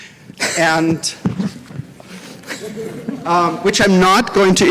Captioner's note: laughter